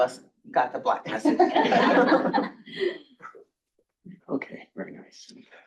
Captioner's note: crowd laughing